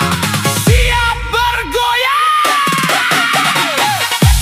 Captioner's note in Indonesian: berteriak